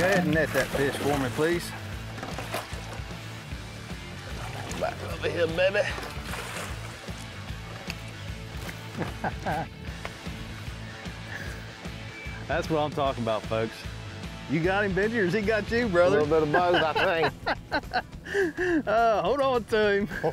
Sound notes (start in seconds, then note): 8.8 laughing